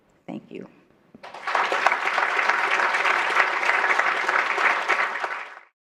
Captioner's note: applause